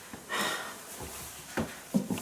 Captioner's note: sighs